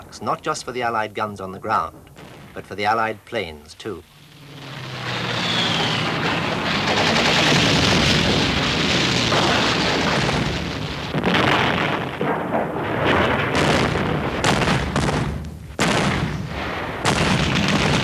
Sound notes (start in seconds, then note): 5.2 bombs falling; 5.2 guns firing